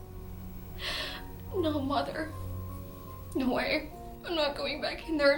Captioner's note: crying